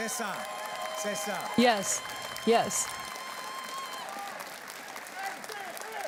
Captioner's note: cheers and Applause